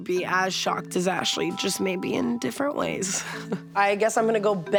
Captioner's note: chuckles